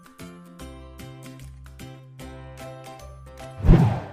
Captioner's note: low whooshing